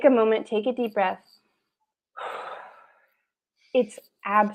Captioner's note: exhales